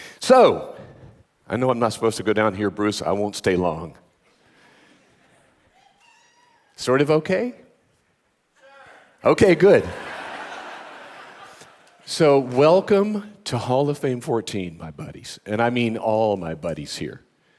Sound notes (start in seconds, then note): 9.6 audience laughing